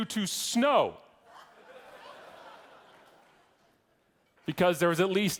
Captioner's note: audience laughing